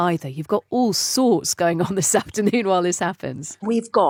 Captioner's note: chuckles